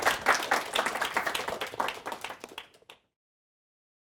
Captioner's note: applause